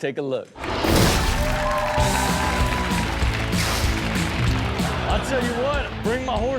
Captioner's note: audience cheers; upbeat music